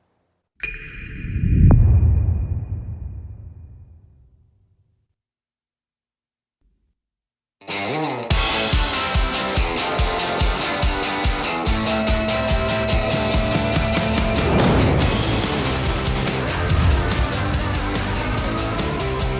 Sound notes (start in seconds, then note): 2.8 dramatic sound; 12.4 rock music playing